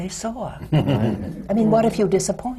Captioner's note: laughs